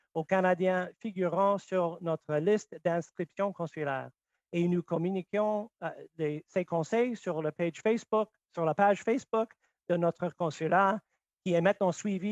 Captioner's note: speaking French